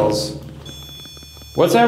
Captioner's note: REM-Pod beeping